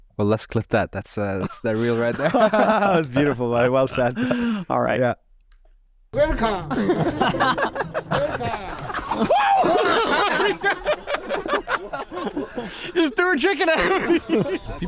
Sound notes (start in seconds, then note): 3.0 both chuckling; 7.5 playful music; 8.5 all laughing; 12.4 laughing